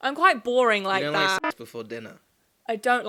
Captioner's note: alarm blaring